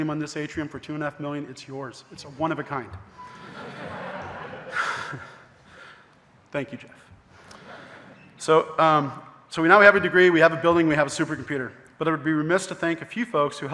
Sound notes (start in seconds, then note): 3.3 audience laughing; 3.4 laughs